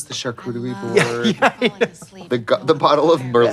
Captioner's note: giggles